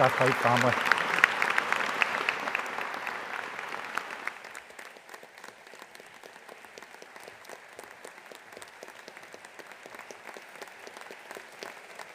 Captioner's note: applause